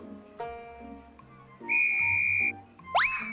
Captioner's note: tweet